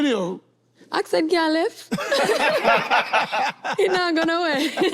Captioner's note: group laughs